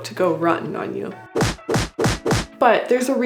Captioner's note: punching sounds